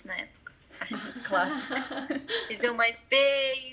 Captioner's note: laughter